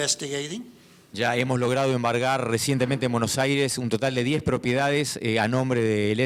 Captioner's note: speaking in foreign language